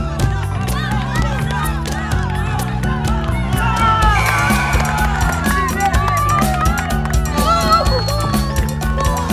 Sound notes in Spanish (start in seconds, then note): 2.6 ovación